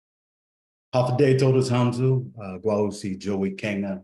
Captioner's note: speaks in foreign language